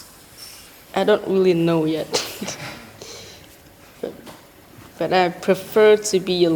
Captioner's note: laughs